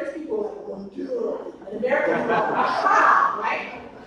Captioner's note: audience laughs